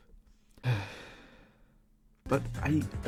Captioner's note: sigh